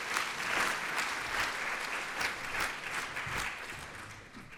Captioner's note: audience applauds